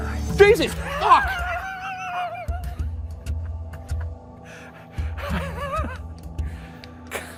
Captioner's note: laughs